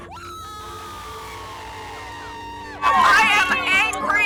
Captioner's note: crowd cheering